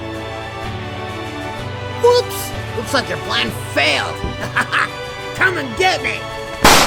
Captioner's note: laughs